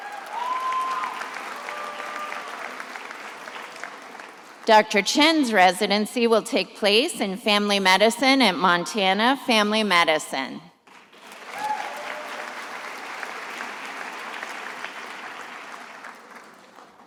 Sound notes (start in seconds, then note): 0.0 attendees applauding; 10.8 attendees applauding